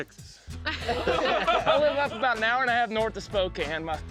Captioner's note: all laughing